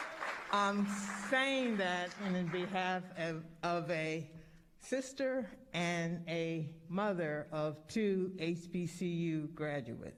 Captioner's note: applause